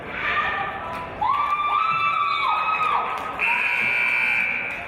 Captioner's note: cheers; buzzer